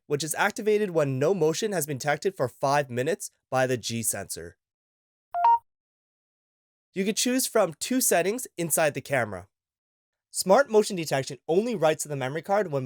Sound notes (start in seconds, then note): 5.3 beeping Noise